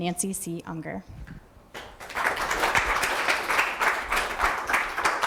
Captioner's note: audience applause